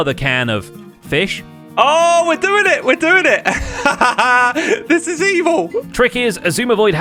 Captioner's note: victorious laugh